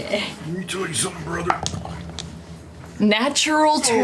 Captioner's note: as Hulk Hogan